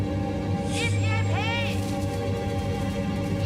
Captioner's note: shouting